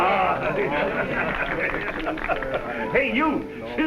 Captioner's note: crowd clapping